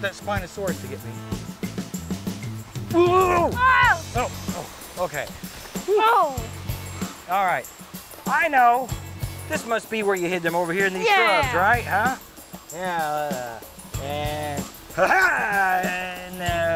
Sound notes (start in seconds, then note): 1.4 energetic music; 3.0 both yelling; 14.8 laughs